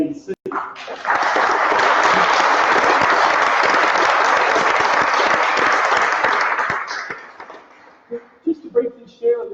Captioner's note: applause